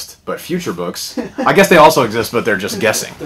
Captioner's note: laughter